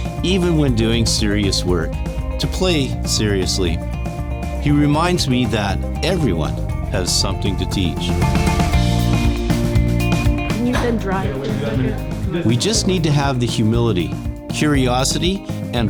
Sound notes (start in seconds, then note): 8.3 all laughing; 8.3 lively music continues